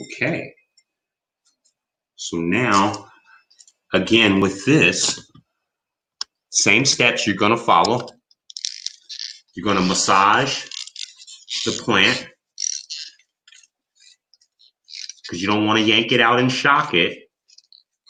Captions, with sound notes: Okay. So now, again with this, same sketch you're gonna follow. You're gonna massage the plant. (pot squeaks) Because you don't wanna yank it out and shock it.